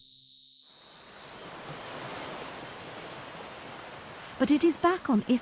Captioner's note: waves lapping